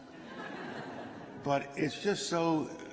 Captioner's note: laughter